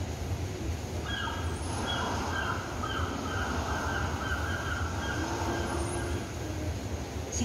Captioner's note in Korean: 갈매기, 파도 소리